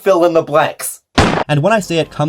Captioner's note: bang